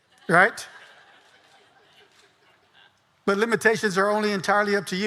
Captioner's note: audience laughing